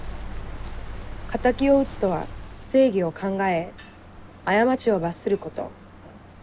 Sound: speaking in foreign language

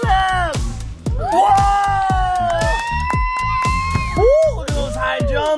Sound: crowd cheers

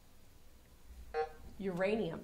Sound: buzzer sounding

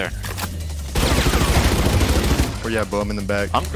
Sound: gun firing

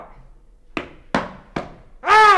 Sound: foot stomps

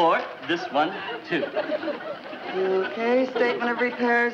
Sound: audience laughs

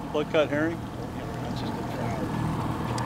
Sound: fish splashing

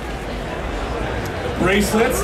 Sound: audience chattering

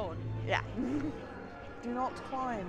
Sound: laughs

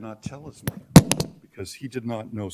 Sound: microphone dropping

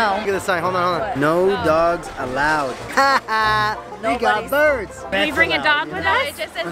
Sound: laughing

